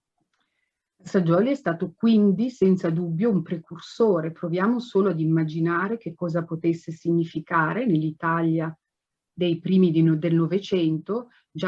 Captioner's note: speaks Italian